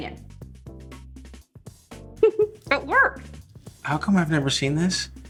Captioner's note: giggles